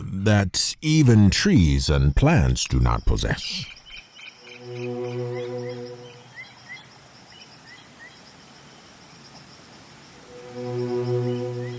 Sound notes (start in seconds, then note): 3.7 bird cawing; 7.5 live string orchestra